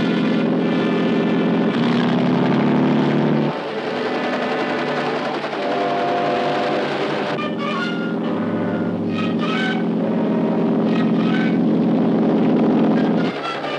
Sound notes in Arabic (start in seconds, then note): 2.3 هدير المحرك; 8.0 هدير المروحية